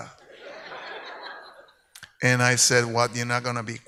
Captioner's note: speaks in Spanish; audience laughs